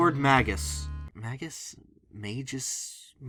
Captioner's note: struggling with pronunciation